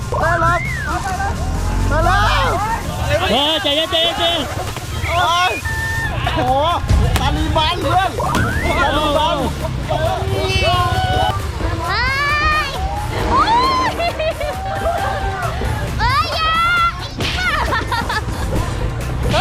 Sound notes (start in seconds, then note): 12.0 screaming; 17.2 laughing